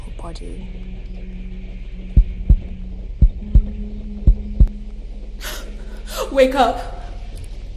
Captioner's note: heavy heartbeat sound